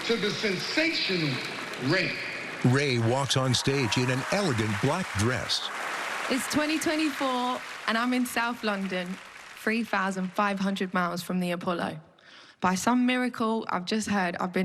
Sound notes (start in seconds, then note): 2.9 cheering and applause